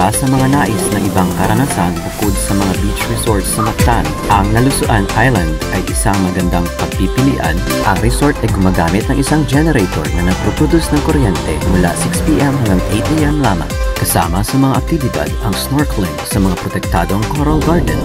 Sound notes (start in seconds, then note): 8.8 generator power